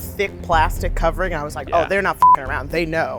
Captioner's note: beeps